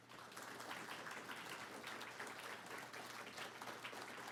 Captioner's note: audience applauding